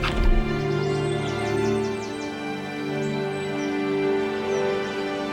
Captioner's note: birds chirping